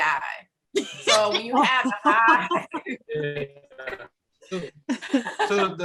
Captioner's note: laughs